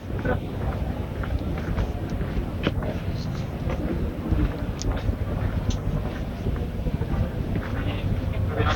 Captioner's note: wind blowing